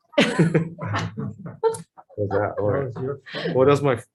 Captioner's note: all laugh